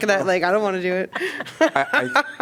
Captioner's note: laughter